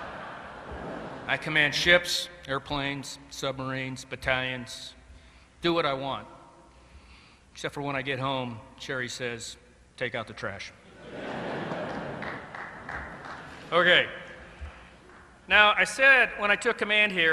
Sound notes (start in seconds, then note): 10.9 laughter; 11.6 applause